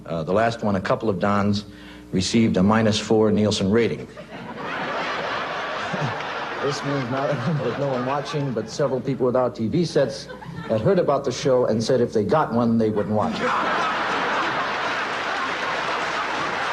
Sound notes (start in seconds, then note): 4.1 audience laughs; 6.6 Newhart chuckles; 13.1 audience laughs